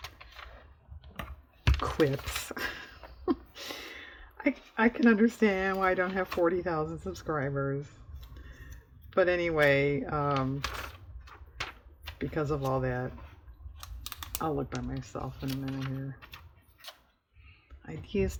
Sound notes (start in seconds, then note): 2.4 laughs